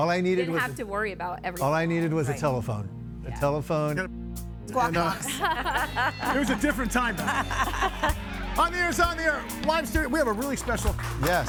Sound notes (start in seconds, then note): 6.7 guests laughing